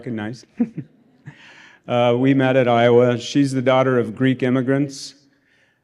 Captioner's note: laughter